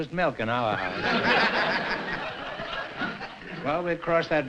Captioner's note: laughter